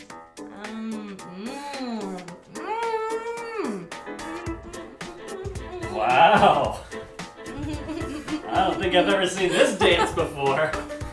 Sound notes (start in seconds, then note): 4.0 humming; 9.4 laughing